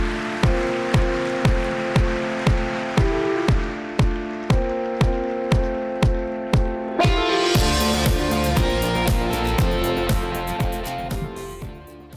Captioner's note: applause